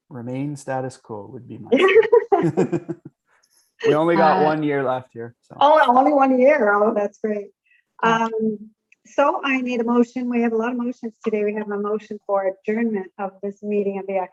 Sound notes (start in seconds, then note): 1.2 laughing